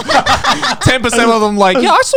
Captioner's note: everyone laughing